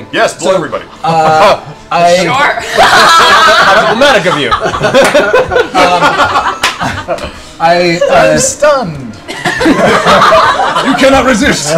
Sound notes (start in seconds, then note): 2.6 laughter